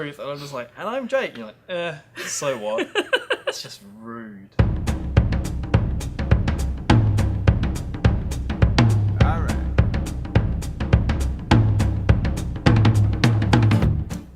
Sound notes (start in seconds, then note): 2.6 laughter